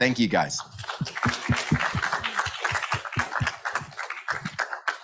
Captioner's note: audience applauds